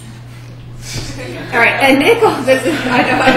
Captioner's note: students laughing